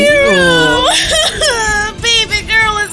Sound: crying

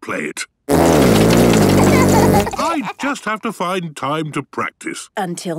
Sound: laughter

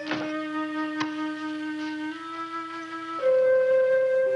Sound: door thumping; wary music; clicking

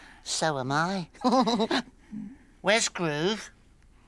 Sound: giggles

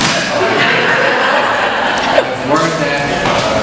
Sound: audience laughs

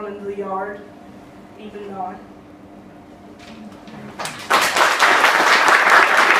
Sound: clapping

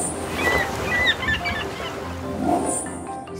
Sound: seagulls crying

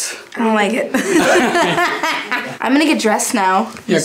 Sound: laughing

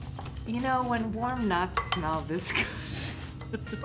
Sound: laughs

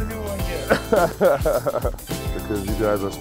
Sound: laughter

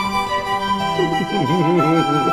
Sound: giggling

